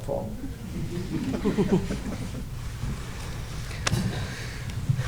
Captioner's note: audience laughing